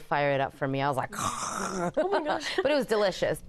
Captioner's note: gasps